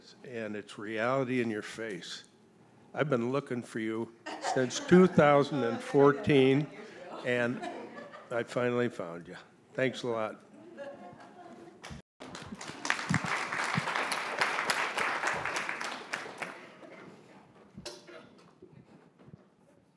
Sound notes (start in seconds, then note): 12.2 audience applauding